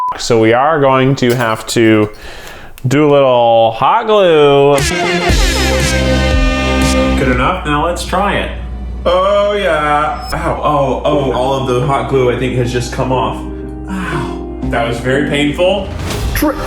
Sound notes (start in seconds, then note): 4.8 party horn sound; 10.7 dramatic music